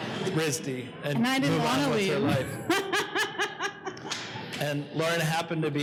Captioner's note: laughs